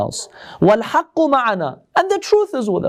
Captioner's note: Arabic